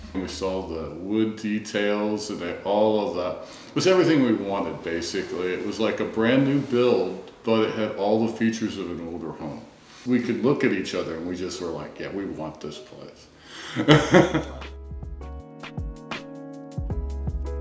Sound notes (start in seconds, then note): 13.6 chuckles; 13.8 upbeat music